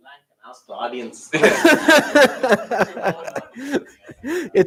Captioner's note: laughter